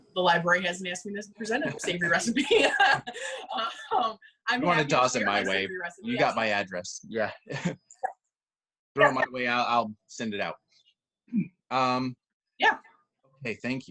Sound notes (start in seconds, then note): 1.6 laughter